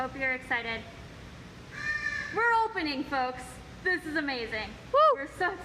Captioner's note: bird squawk